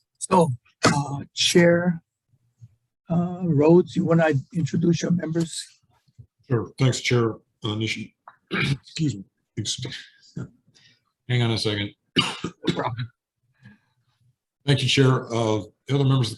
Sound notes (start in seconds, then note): 12.1 coughing